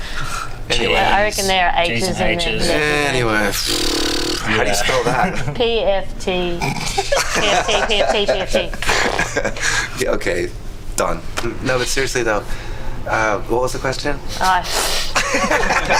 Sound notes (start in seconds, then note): 3.6 sighs; 6.6 laughs; 15.2 all laugh